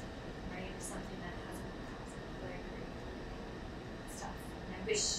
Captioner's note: speaking away from mic